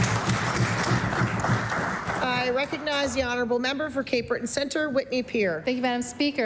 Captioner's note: applause